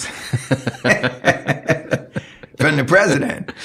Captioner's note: laughing